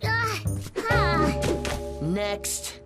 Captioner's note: bop!